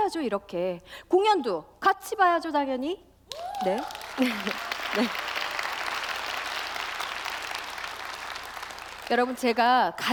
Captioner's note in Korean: 박수와 함성